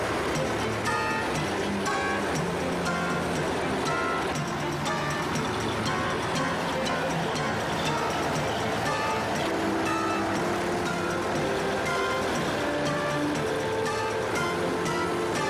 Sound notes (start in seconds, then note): 1.3 upbeat instrumental music; 9.4 tractor engine revving